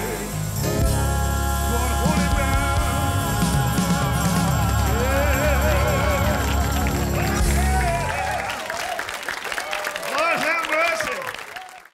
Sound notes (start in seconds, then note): 8.4 cheers and applause